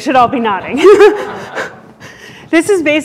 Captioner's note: laughter